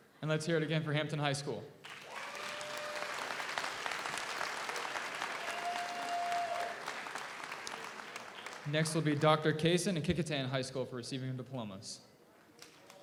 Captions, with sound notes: - And let's hear it again for Hampton High School. (audience applauds) (audience cheers) Next will be Dr. Casen of Kecoughtan High School for receiving of diplomas.